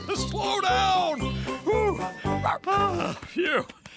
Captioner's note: out of Breath